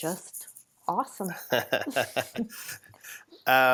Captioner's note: laughs